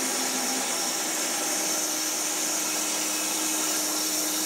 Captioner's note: saw whirring